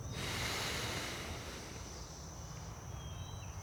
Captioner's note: man sighs